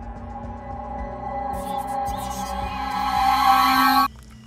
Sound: dark riser and sound of shrieker

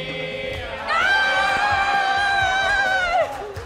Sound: cheering

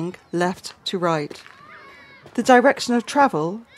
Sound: slow footsteps

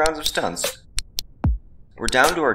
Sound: remote clicking

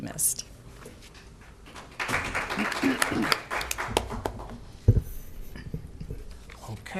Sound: applause

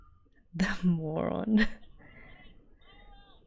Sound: laughs

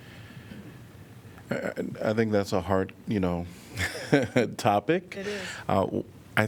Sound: laughter

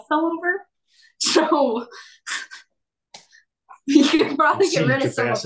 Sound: laughs

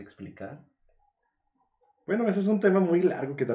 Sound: deep silence

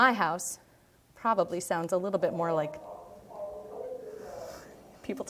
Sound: people talking

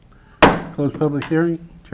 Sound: gavel hitting on sound block

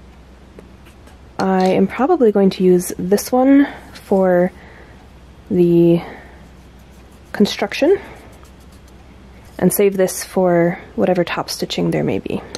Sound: normal voice

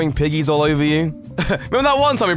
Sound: laughs

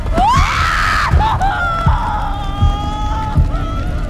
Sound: Karolina screaming

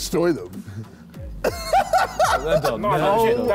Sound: all laughing

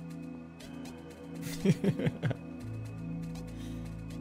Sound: chuckles

